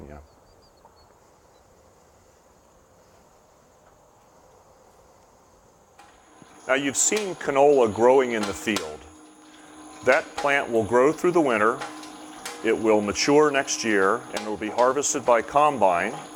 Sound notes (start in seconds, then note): 0.2 no audio; 4.7 background equipment sounds